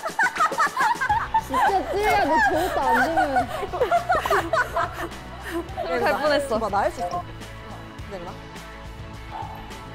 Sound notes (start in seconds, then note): 3.7 can't stop laughing